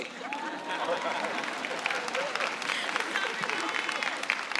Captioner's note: laughter and applause